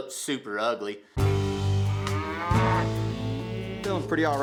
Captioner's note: cattle moo